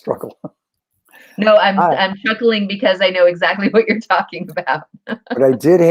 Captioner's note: laughter